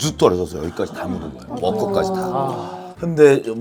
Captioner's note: haha